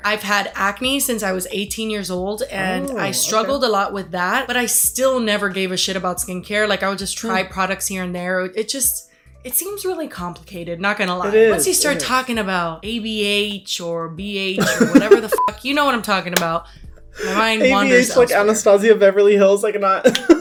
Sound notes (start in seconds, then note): 14.6 Hyram laughs; 15.3 beep